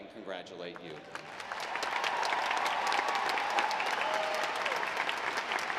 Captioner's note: audience applauding